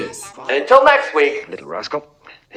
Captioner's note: TV shuts off